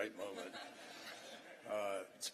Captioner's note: laughter